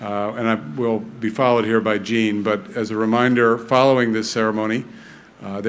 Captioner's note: none